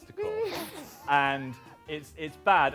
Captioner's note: laughs